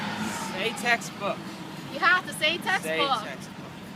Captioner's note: enthusiastically